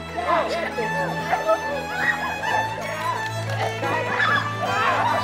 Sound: all laughing

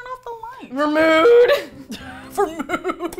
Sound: braying; laughing

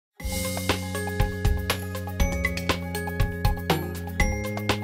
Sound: gently chiming bells

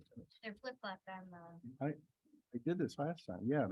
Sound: indistinct conversation

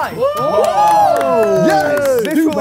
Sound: Sidemen cheer

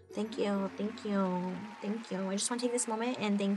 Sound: audience applauding

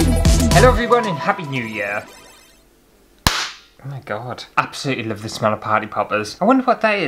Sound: intro Music; pop!

